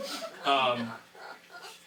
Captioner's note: audience laughing